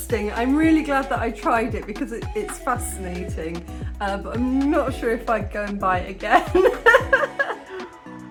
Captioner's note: laughing